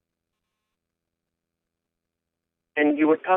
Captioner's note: silence